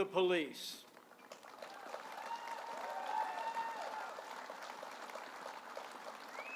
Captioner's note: applause